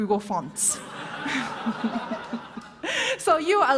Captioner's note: laughter